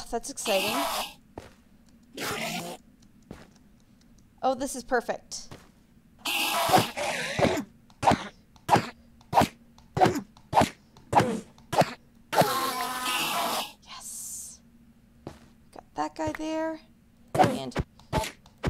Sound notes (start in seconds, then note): 0.4 endermen screech; 6.2 more combat sounds